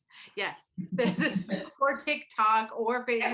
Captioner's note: laughs